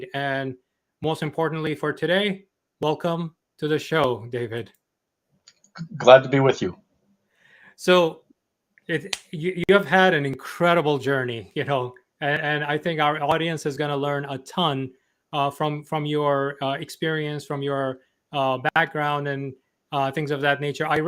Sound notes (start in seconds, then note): 5.1 mouse clicking